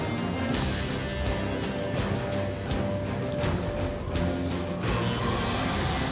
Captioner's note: footsteps; wind blowing hard